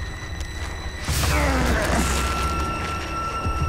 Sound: groaning

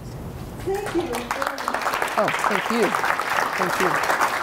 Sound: audience applauding

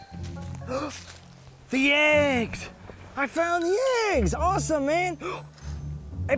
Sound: upbeat orchestral music; gasps

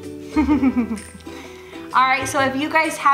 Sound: chuckles

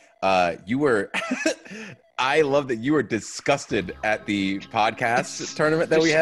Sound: laugh

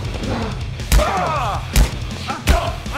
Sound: loud smack; loud smack

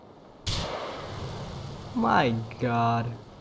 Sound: fires Rocket

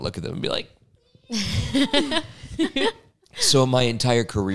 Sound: laugh

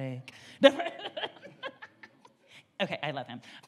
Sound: laughs

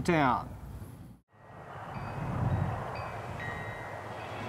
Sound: wind chimes clanging

